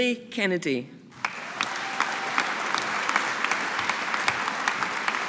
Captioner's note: audience applauding